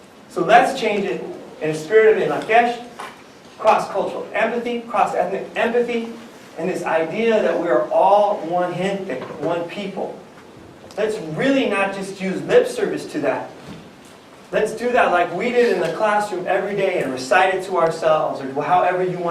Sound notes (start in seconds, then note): 8.4 non-english speech